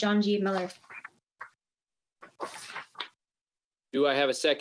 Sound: paper shuffling

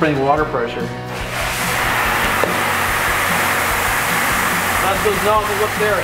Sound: water spraying

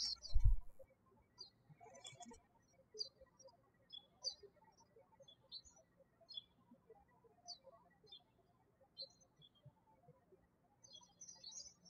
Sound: birds chirping

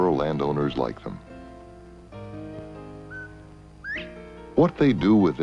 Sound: quail singing

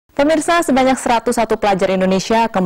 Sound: non-english speech

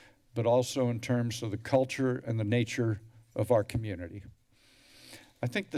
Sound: inhales

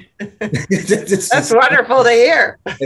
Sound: laughter

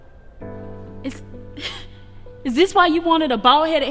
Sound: chuckles

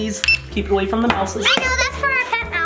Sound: scanner beeps

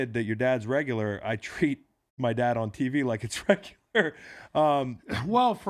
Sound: laughs

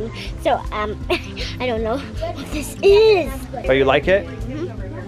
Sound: laughs

